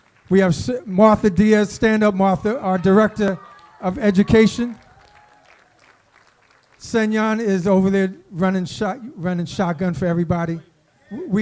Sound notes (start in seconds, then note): 1.2 applause